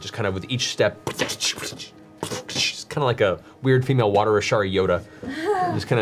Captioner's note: squishing splash